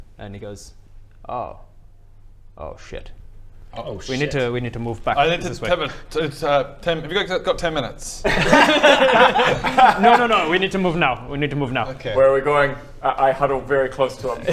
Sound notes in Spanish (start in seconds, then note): 8.2 risas